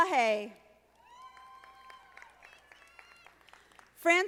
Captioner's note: audience applauding